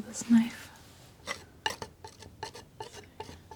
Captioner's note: scratching